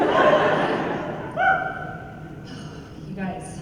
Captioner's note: laughter